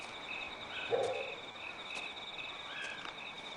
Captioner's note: dog barking